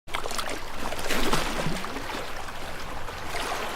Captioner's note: water splashing